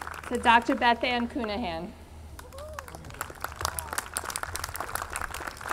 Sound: audience clapping

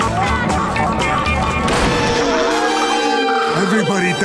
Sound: screaming

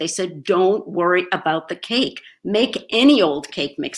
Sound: none

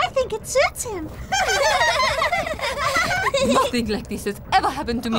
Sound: laughter

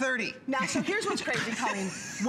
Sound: laughter

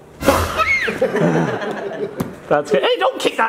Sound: screams

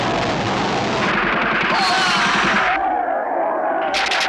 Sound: gunfire

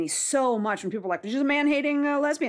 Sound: none

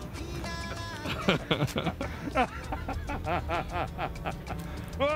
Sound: laughter

